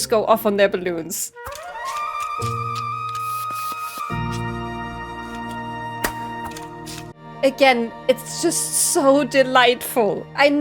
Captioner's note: balloon pop